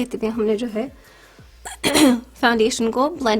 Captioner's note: clears throat